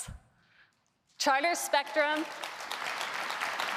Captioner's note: applause